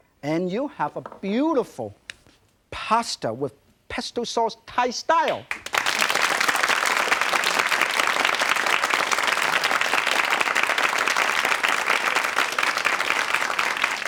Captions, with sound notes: and you'll have a beautiful pasta with pesto sauce, Thai style. (audience clapping)